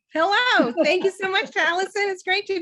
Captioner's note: chuckles